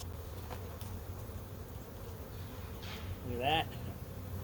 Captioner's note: sped up talking; bees buzzing